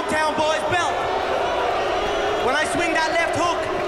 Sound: audience jeering

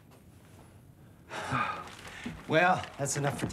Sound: sighs

